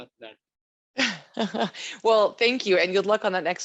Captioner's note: laughs